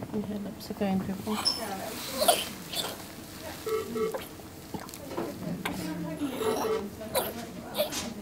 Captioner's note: baby in intensive care coughing and struggling for breath. Monitor beeping